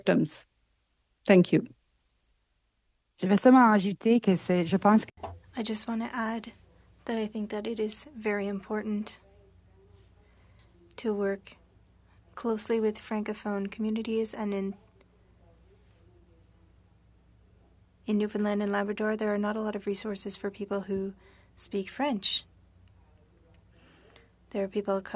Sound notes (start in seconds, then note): 10.1 speaking French